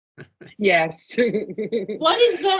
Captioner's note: laughing